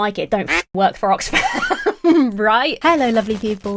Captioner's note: quaking